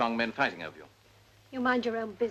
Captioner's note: none